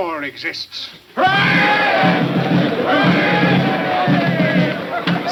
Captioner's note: crowd cheering; drumming music